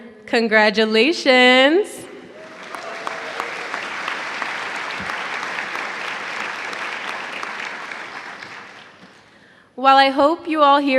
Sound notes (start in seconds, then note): 2.3 applause